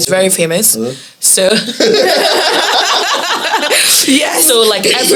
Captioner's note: laughs